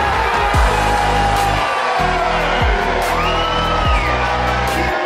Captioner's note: crowd Cheers